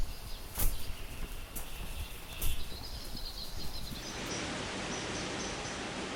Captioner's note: birds chirping